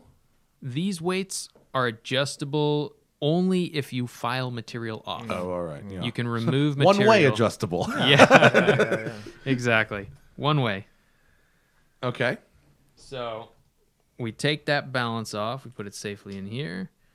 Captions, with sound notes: >>:These weights are adjustable only if you file material off. >>:Oh, all right. Yeah. >>:You can remove material... >>:One-way adjustable. >>:Yeah. >>:(LAUGHTER) >>:Exactly - one way. >>:OK. >>:So we take that balance off. We put it safely in here.